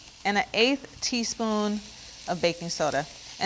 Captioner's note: none